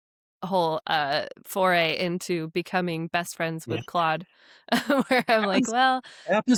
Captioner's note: chuckles